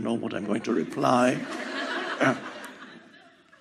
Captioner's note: publicul râde